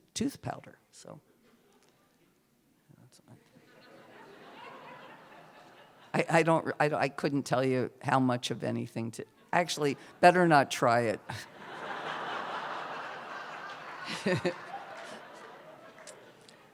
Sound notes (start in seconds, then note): 3.6 laughter; 11.3 laughter